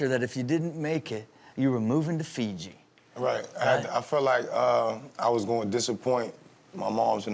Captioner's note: none